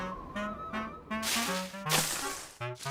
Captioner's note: leaves crunch